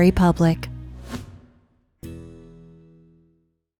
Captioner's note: transition whooshing